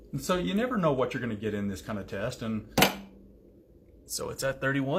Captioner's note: pops